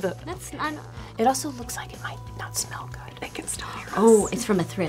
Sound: whispering

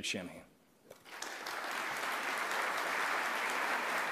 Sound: applause

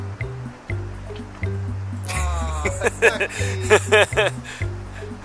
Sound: laughing

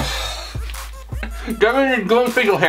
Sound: laughing

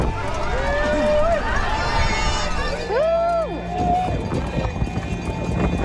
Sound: crowd cheers and applauds

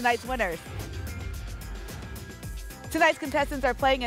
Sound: whoosh

